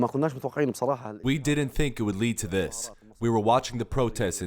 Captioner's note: through translator